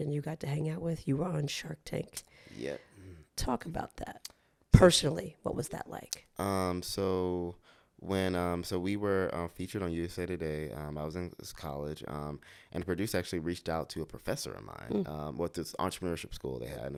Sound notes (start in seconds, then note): none